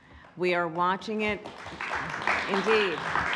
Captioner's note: applause